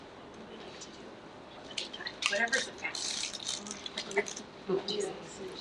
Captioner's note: trustees chattering